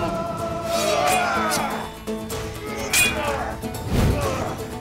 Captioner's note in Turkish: Dövüşme sesleri; Kılıç sesleri